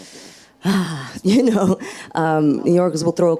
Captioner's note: audience laughs; laughs